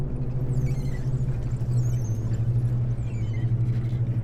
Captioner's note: bikes squeaking